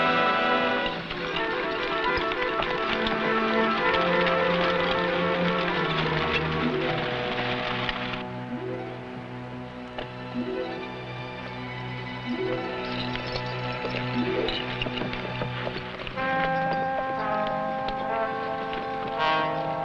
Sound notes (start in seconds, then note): 2.2 horse hooves pattering; 11.2 somber music; 15.4 horse hooves pattering